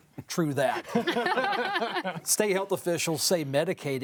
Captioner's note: all laugh